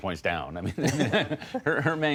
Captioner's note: laughter